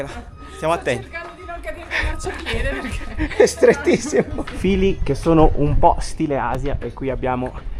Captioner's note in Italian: risate